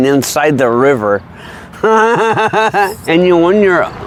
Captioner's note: laughs